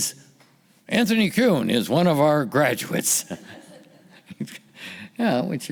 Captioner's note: laughing